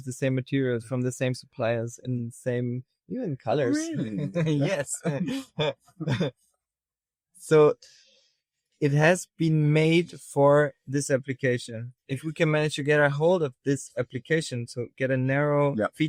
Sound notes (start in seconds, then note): 6.0 chuckles